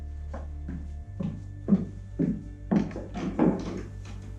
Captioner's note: footsteps